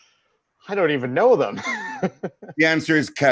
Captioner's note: laughs